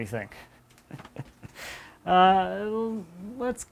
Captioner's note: laughing